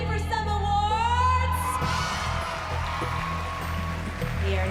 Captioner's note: cheering